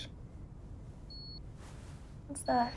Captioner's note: beeping